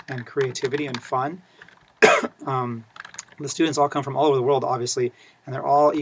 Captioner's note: cough